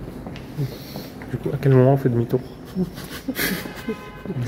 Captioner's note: laughs